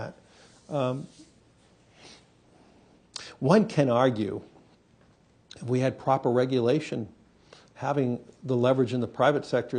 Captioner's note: audio break